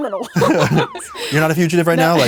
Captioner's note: both laugh